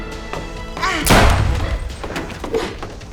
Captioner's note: gunshot